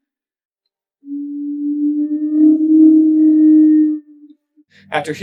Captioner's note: strange sound effect plays